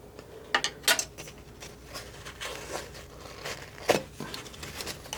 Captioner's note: scratching